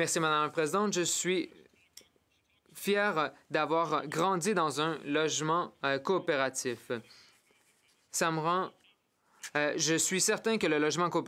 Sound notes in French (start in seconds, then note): 3.9 voix de l'interprète